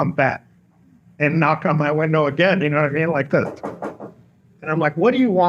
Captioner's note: knocking noise